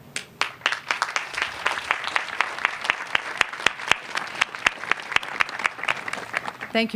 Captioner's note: applause